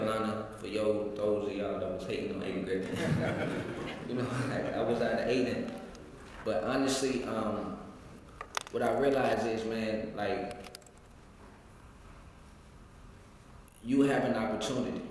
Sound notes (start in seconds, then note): 2.8 laugh